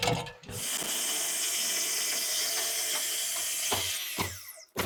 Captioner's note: power tool whizzing